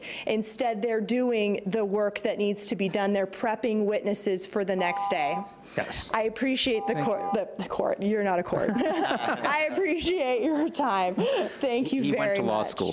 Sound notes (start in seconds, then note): 8.7 laughs